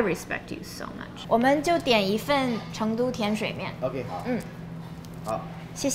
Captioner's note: speaking foreign language